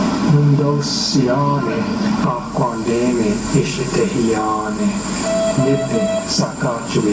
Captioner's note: male voice speaking in Indigenous Myaamia language; background: short beeps; male voice speaking in Indigenous Myaamia language